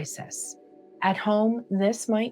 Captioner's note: pause